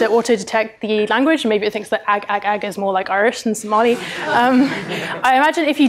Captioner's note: laughter